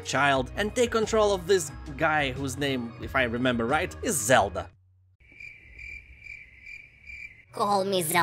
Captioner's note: crickets chirping